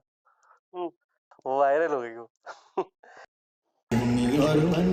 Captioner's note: laughs